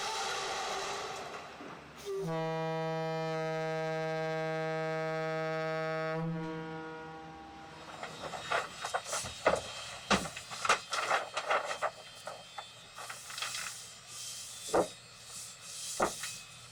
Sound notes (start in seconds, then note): 2.0 ship horn blowing; 7.8 paper rustling